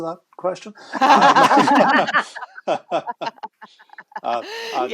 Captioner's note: laughter